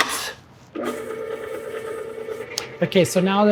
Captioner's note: mixer whirring